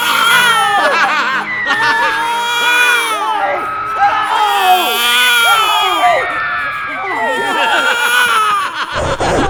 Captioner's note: Crying baby. Dracula laughing manically; Jonathan screaming in horror; Dracula laughing manically; baby crying. Snarling dog sounds. Silence